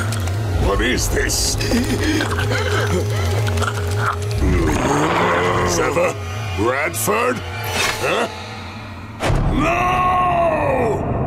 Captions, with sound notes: What is this? [groaning] Silva? Bradford? Huh? No!